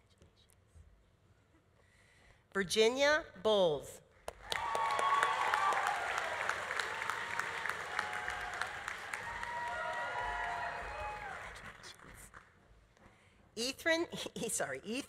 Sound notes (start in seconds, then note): 4.4 audience applauding; 4.4 audience cheering